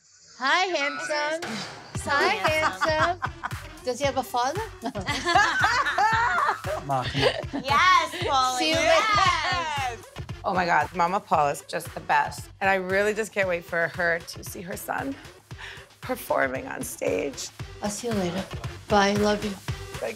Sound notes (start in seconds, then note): 4.8 laughs; 4.8 girls laughing